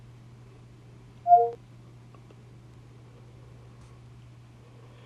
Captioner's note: computer beeps